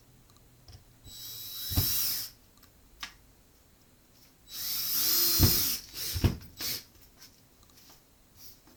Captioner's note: sound of electric tool